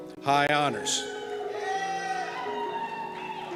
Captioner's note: cheers